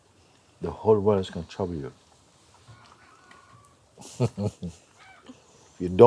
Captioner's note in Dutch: lacht